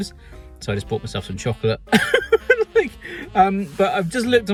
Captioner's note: laughs